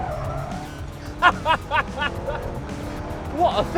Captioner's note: laughs